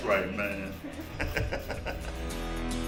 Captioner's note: laughter